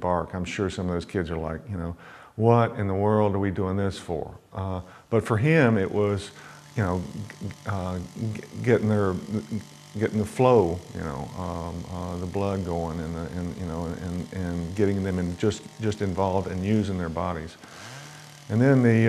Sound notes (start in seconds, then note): 5.5 chainsaw wurring